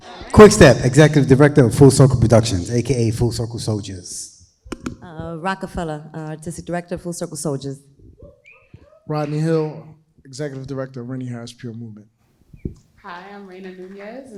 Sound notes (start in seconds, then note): 9.1 crowd cheering